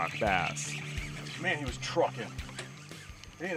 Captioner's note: reel cranking